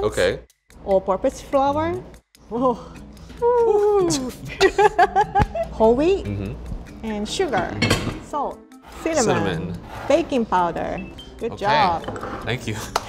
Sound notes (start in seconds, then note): 3.5 laughs